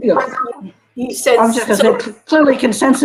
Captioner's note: all chattering